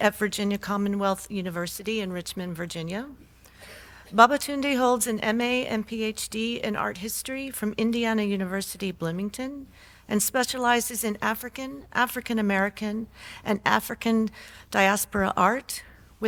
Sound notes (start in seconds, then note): none